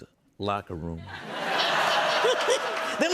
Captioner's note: laughter